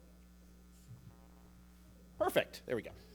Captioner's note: mic humming